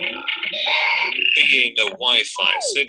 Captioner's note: electronic noises